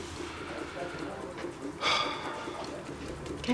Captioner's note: sighs